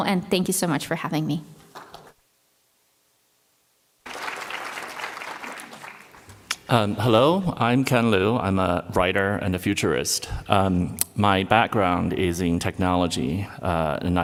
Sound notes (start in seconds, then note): 4.0 applause